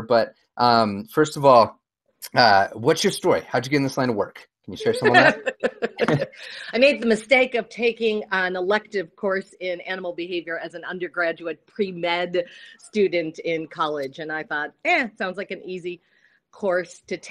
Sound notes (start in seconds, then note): 4.8 laughs